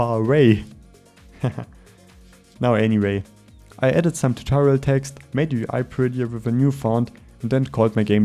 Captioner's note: breath